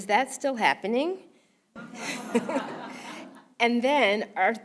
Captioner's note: laugh